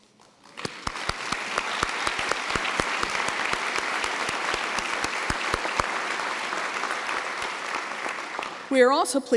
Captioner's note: applause